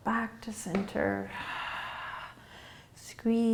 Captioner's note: exhaling